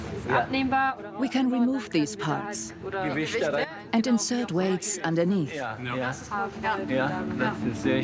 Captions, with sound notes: (dubbed in English) We can remove these parts and insert weights underneath.